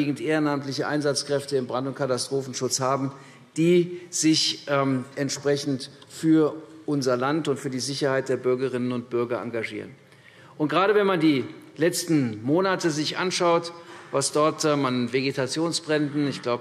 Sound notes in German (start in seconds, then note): none